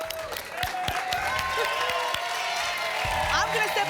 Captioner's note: applause